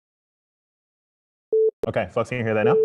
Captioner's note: tone plays